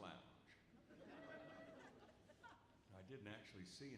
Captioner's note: audience laughs